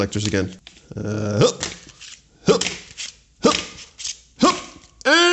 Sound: throwing “hup” noises

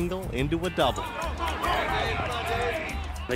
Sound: athletes shouting

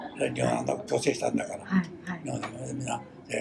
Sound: foreign language

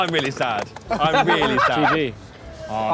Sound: laughing

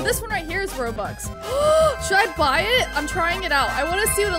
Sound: gasps

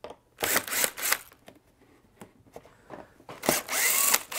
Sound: driver tool roaring

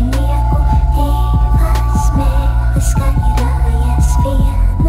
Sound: two tongues loudly scolding

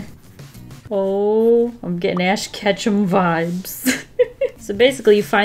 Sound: laughs

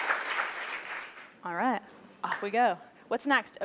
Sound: applause

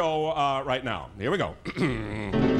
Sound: bell ringing

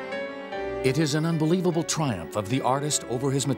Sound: voiceover

